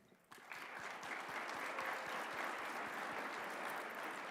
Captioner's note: applause